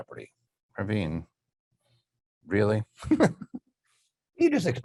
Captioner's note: laughing